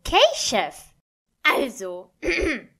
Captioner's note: clears throat